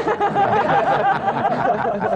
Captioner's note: laughter